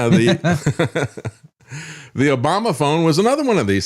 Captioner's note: laughs